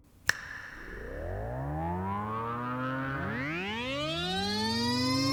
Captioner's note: snaps fingers; warp whirring